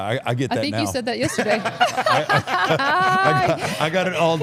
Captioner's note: all laughing